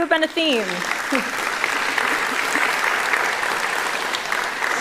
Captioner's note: applause